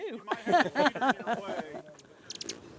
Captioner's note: laughing